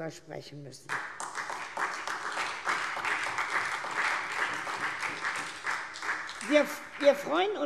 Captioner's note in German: Beifall SPD